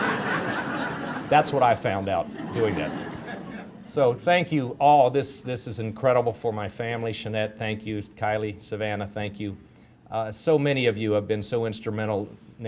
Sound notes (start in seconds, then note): 0.0 audience laughter